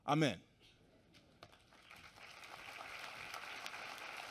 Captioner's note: applause